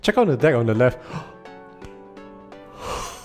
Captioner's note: gasp